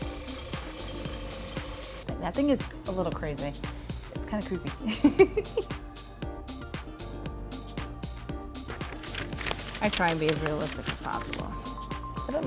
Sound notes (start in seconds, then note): 4.8 giggles; 8.6 rustling